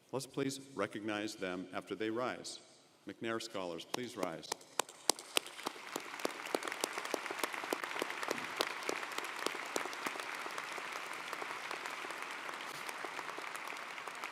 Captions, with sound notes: Let's please recognize them after they rise. McNair Scholars, please rise. (audience applauding)